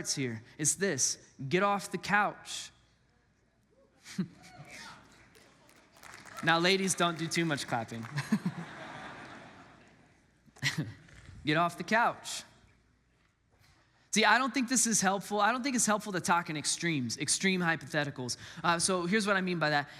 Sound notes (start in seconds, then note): 4.6 congregants applaud; 8.4 congregants laugh; 11.1 laugh